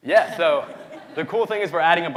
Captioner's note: audience laughing